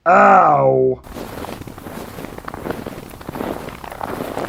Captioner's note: footsteps through snow